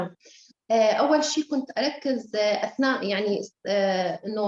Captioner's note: speaking Arabic